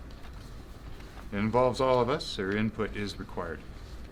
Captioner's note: none